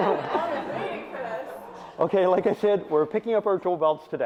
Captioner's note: audience laughs